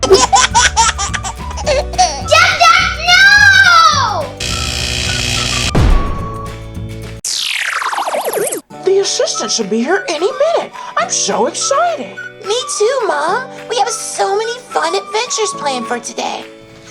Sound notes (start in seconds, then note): 0.0 laughs; 4.4 electrical buzzing; 5.7 banging